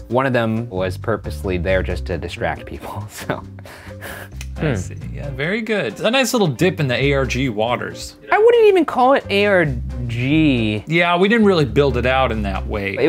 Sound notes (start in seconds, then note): 2.8 chuckles